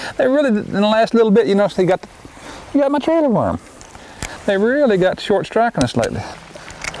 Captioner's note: none